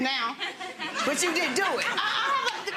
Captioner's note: audience laughing